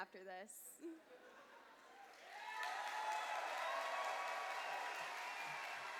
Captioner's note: cheers and applause